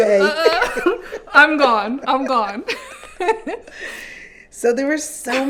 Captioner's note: laughs